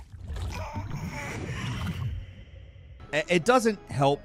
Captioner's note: baby coos